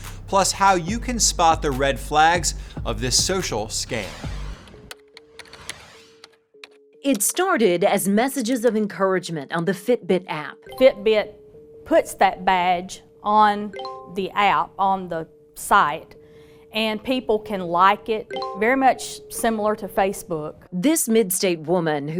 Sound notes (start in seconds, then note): 4.8 keyboard keys clicking; 5.4 swoosh effect